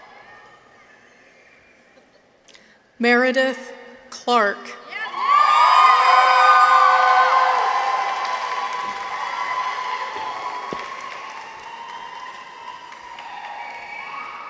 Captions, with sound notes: Meredith Clarke. -(people cheer) -(audience applauds)